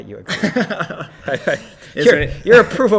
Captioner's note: laughter; laughs